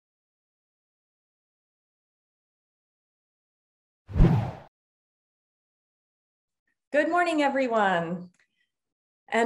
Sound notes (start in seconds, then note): 4.1 text whooshes